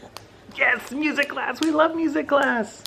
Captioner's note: baby claps